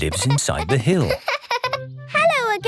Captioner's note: laughing